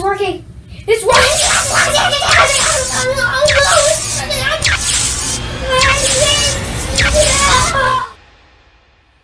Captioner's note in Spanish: zapping